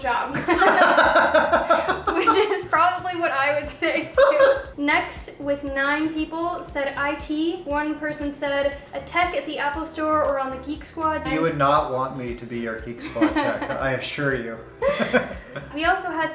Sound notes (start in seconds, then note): 0.3 laughter; 4.0 laughs; 14.8 laughs